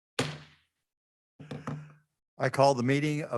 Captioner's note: gavel banging